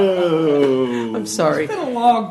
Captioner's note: laughter